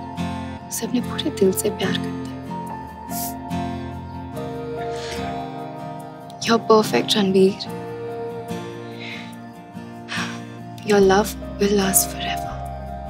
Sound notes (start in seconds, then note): 3.1 Chuckles; 9.8 Sighs